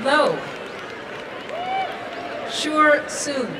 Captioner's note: applause and cheering